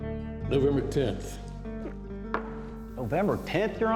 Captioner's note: gulps